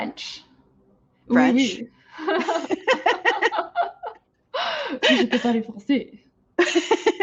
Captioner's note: laughing